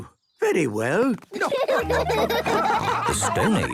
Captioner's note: laughing